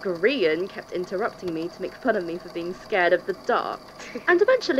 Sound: snickers

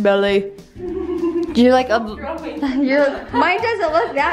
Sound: laughing

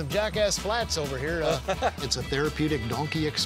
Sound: laughing

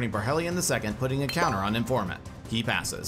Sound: chime tinkling

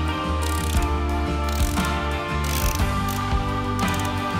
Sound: metal screeching

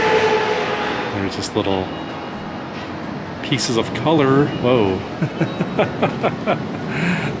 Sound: laughs

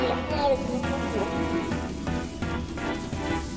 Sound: electronic static

